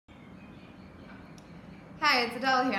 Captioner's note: birds chirping